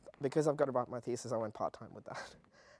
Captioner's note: laugh